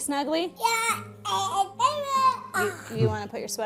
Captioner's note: child vocalizing